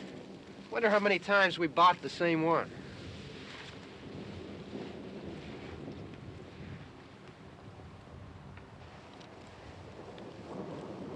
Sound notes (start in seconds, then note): 3.8 thunder rumbling